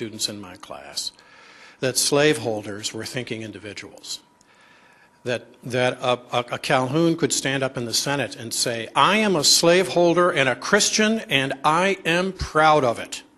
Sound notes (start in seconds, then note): none